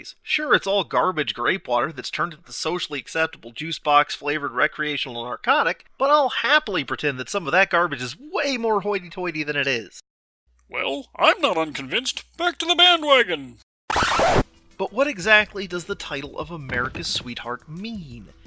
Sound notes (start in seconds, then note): 6.7 happily; 13.9 reverse record scratch